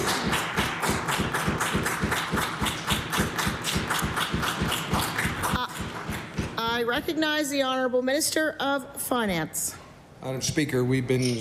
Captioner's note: applause